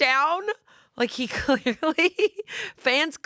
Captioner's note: laughs